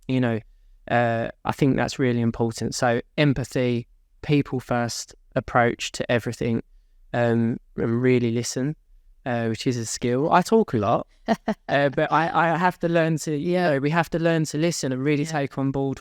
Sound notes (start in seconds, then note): 11.2 laughs